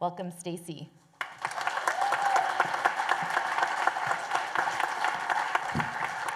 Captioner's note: applause